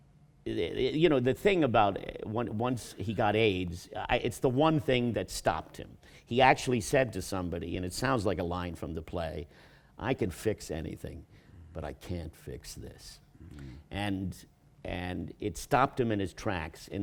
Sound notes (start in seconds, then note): none